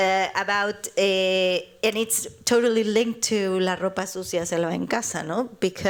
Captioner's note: speaking spanish